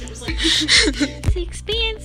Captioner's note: laughing